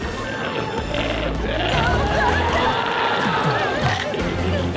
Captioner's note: glowzie roars